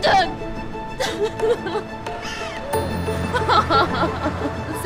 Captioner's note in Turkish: Kadın ağlıyor